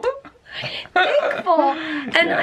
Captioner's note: laughter